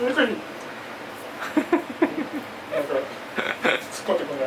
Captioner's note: laughs